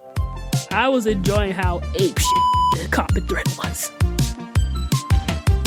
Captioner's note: beep; upbeat music